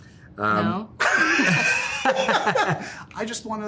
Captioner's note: laughter